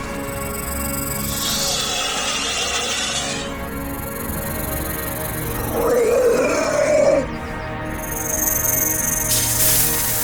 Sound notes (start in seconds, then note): 0.0 snake hisses; 0.0 snake rattles; 1.9 snake screeches; 5.8 snake growls